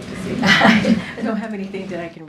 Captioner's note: laughs